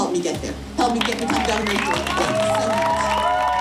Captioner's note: applause